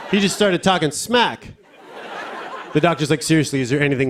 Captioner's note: laughter